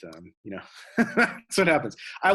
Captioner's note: laughs